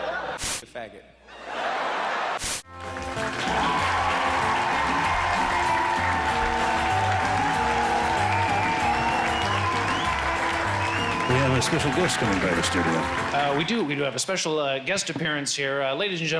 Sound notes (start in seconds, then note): 0.0 laughter; 0.4 static; 2.4 static; 3.1 crowd cheering